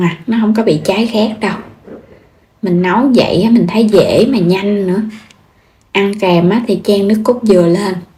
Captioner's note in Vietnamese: hắng giọng